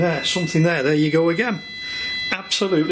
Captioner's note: machine beeping